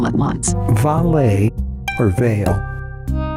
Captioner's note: male Voice